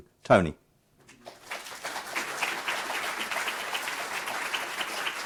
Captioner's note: audience applauding